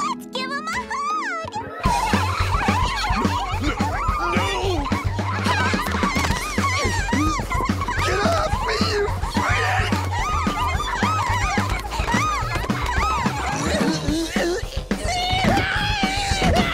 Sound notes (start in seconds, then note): 1.9 all laughing; 5.3 laughing continues; 7.4 straining; 12.3 laughing continues; 13.7 banging; 13.7 straining, screaming